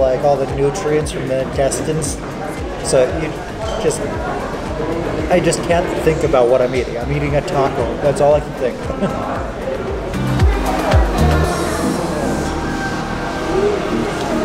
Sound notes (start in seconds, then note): 8.8 chuckles; 8.9 bright music